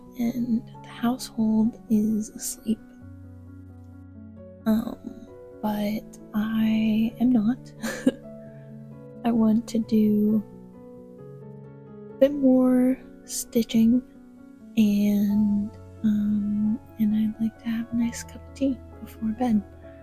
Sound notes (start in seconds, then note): 7.8 laughter